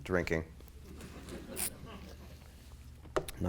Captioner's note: laughter